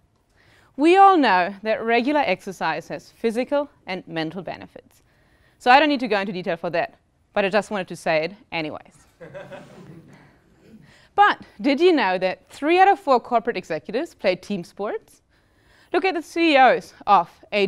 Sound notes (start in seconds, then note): 9.1 laugh